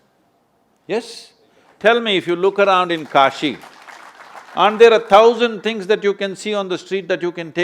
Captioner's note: applause